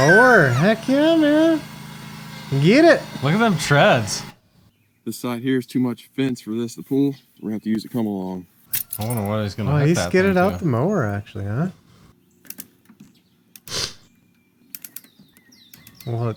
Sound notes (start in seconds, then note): 0.3 person laughs; 8.8 metal clanging; 12.6 metal clicking